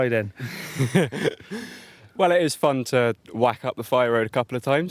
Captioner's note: laughs